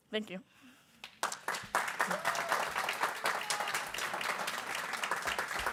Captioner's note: people clapping